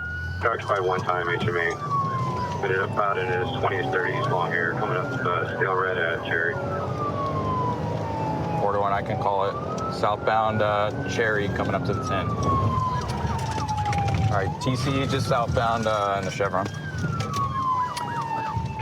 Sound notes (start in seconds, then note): 12.2 sirens